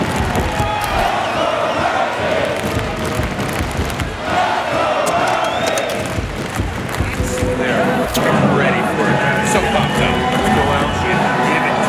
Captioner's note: crowd